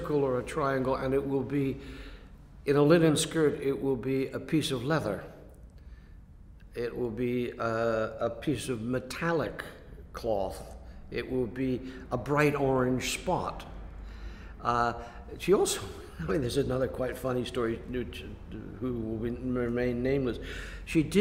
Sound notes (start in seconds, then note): 16.0 laughs